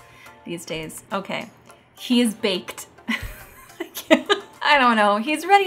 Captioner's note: laughs